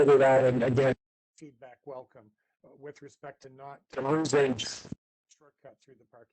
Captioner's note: audio drops